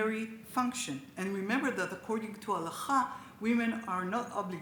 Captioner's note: speaks Hebrew